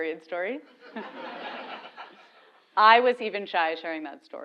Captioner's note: laugh